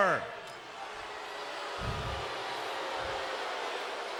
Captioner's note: crowd booing